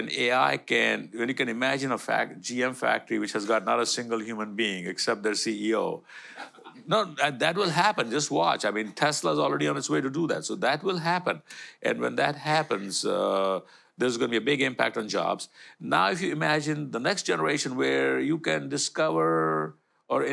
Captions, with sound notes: when AI can imagine a GM factory which has got not a single human being except their CEO. [AUDIENCE LAUGHTER] No, that will happen. Just watch. Tesla's already on its way to do that. That will happen. When that happens, there's going to be a big impact on jobs. Now, if you imagine the next generation where you can discover or